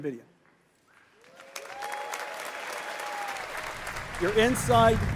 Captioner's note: Applause; 掌聲